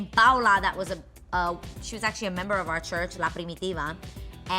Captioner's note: foreign language